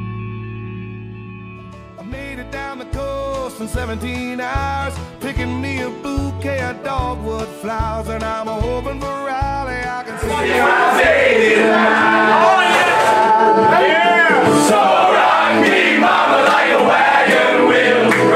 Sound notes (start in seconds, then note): 1.8 singing; 10.2 shouting; 14.4 singing